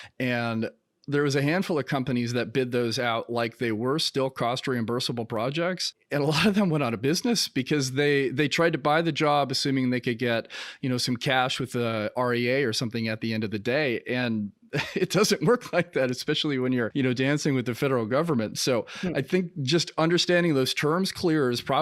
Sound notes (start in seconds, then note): 14.7 giggling